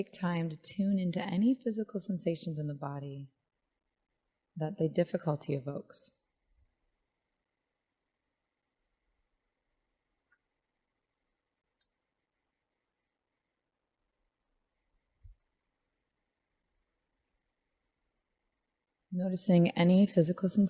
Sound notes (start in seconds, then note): 6.2 silence